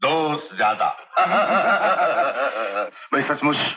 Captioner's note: Laughing